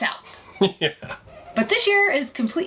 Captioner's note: chuckles